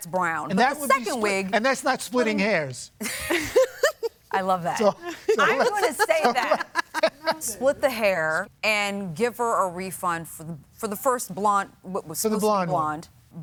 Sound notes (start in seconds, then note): 3.0 both laugh